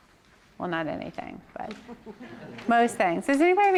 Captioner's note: audience laughs